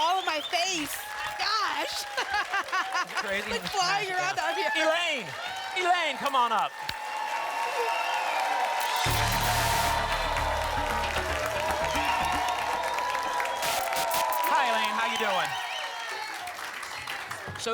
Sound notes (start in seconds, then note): 1.8 laughs; 6.9 applause and cheering cont; 8.8 static; 11.6 applause and cheering cont; 13.4 static; 16.0 applause and cheering cont